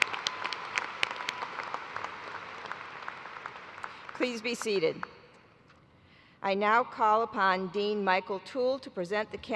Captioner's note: cheers and applause